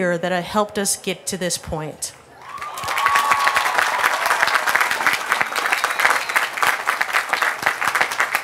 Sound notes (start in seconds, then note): 2.3 cheers & applause